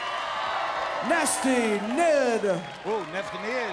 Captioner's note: applause